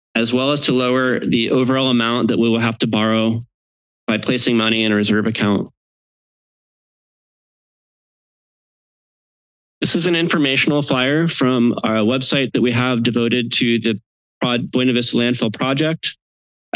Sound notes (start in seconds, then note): 6.0 silence